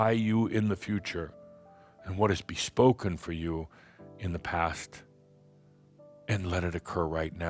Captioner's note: none